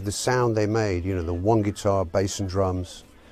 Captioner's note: none